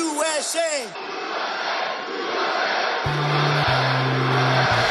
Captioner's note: crowd